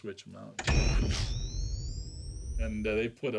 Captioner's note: machinery humming